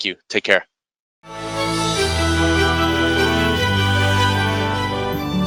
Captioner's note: logo chiming